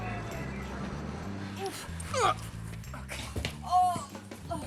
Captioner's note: grunts; groans